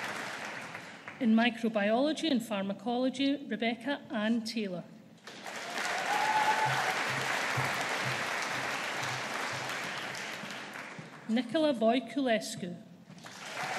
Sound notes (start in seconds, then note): 5.2 audience applauding